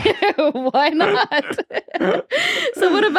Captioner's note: both laugh; laughs